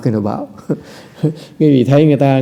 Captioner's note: laughter